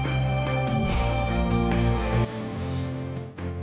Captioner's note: none